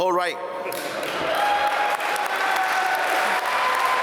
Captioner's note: applause